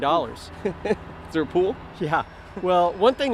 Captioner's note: chuckling